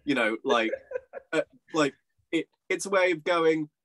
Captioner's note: laughing